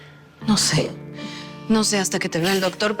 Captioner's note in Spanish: none